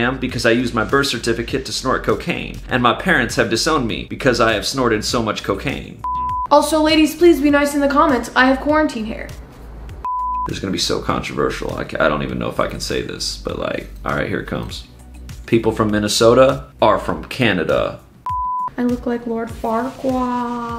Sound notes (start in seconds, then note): 6.0 screen beeps; 10.0 screen beeps; 18.2 screen beeps